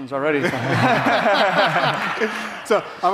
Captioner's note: audience laughing